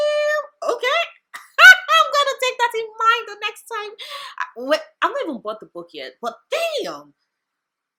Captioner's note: laughs